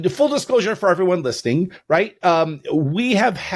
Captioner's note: none